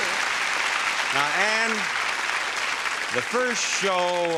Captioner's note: audience applauding